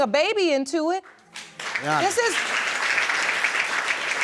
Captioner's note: crowd applaudes